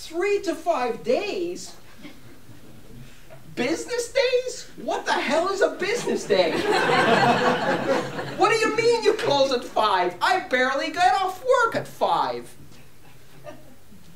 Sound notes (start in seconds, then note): 6.4 laughter